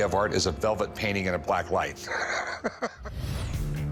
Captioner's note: laughs